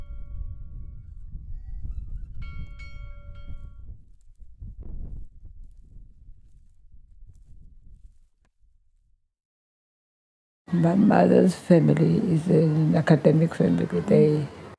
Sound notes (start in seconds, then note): 0.0 rumbling wind with a church bell from a distant